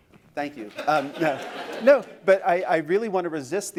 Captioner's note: laughter